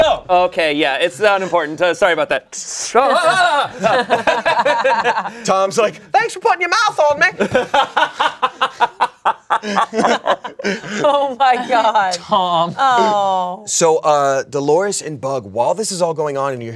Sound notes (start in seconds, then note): 2.9 everyone laughs; 3.0 yells; 7.4 everyone laughs